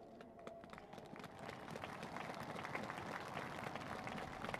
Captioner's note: applause